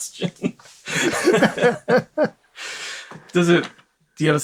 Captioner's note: laughter